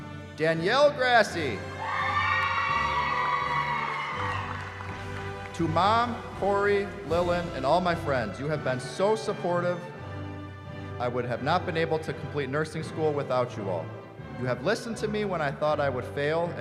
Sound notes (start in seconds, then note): 1.7 cheering